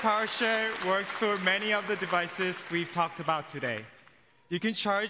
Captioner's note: cheers & applause